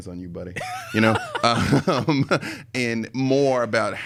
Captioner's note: laughs